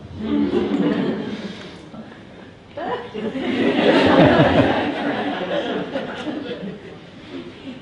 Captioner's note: laughter from audience can be heard